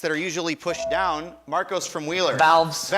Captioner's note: buzzer chimes